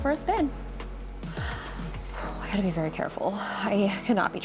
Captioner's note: gasps